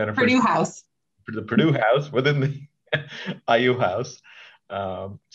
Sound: chuckles

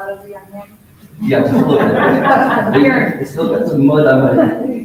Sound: laughs

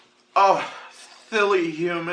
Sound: laughs

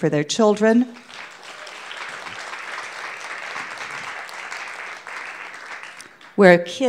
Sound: audience clapping

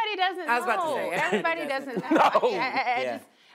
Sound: laughs

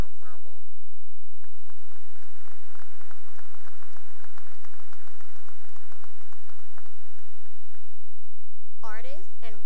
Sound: applause

